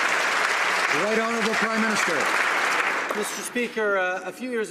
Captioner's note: some Applause